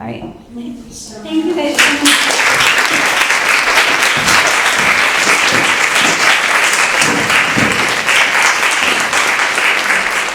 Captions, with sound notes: All right. - Thank you so much. - Thank you guys too. (audience clapping)